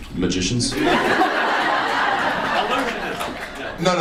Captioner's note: audience laughs